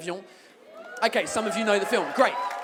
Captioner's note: audience whoops